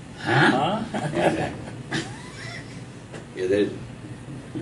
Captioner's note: chuckling